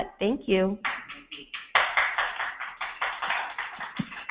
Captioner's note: applauding